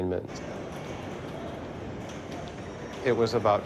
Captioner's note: pinball tournament ambience